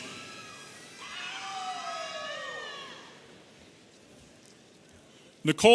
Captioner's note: audience cheering